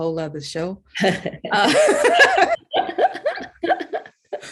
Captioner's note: all laughing